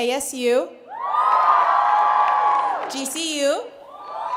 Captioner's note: cheers